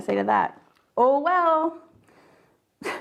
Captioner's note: laughs